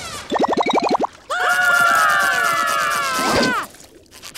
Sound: screaming; laughing

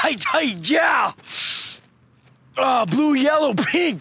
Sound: sniffs

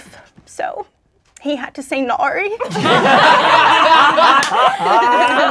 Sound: laughing

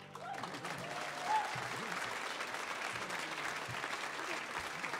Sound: audience cheering

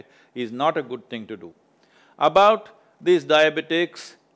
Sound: none

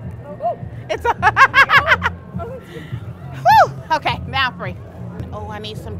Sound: laughs

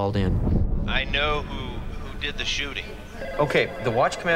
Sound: on phone

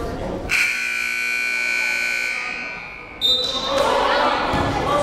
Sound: timer buzzing

